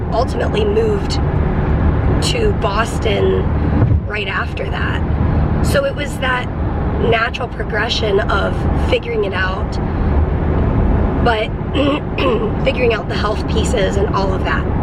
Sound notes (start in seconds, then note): 11.8 clears throat